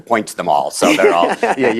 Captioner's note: laughter